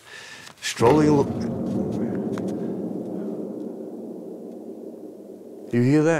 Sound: bombs drop in the distance

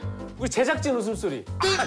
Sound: production Team's Laughter Sound

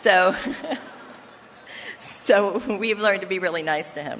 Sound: laughter

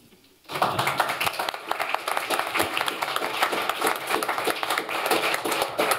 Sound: applause

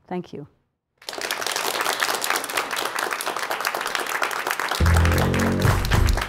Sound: applause

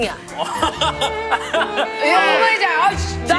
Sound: laughing

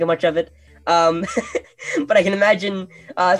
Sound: laughing

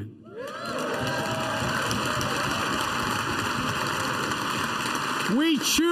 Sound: applause

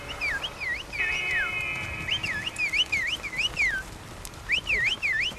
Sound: whistling

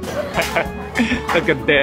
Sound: chuckles

